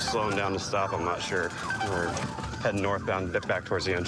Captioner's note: sirens blaring